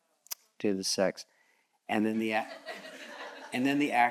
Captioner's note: audience chuckles